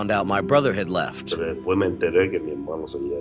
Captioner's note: through translator; speaking Spanish